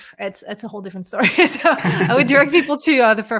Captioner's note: laugh